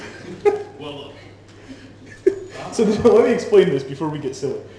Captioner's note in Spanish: voces actuando como Lord Vader